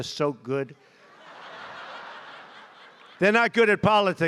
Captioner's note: laughter